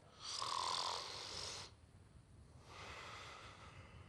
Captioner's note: snores